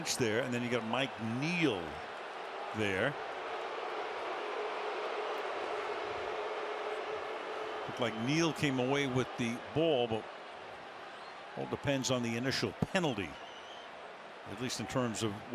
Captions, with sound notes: Well, you got Lynch there and then you got Mike Neal there. [booing] Look like Neal came away with the ball, but all depends on the initial penalty, at least